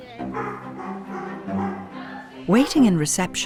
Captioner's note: dogs barking